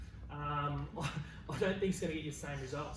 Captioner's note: laughs